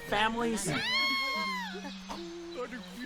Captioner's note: tiny little ahhhhhhhhhhh!